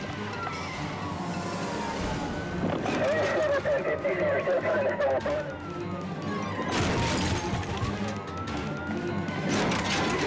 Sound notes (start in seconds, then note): 2.7 police radio chatter; 6.2 car crunching